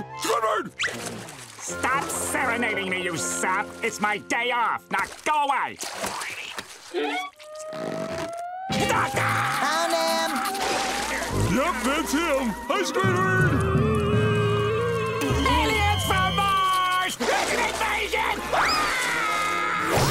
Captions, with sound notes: Squidward! Stop serenading me, you sap. It's my day off. Now, go away. -[screaming] -Found him. Yup, that's him. Hi Squidward! Aliens from Mars! It's an invasion! Waaahhhh!